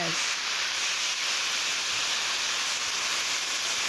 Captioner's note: sizzling